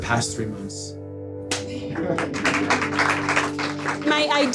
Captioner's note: audience applauds